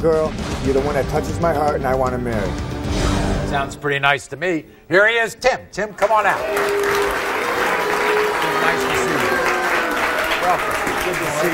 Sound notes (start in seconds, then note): 6.3 audience groaning